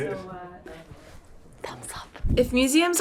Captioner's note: whispering